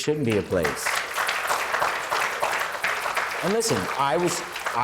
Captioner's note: applause